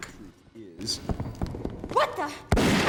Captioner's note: footsteps running; gunshot